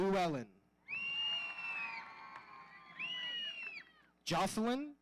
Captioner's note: audience whistling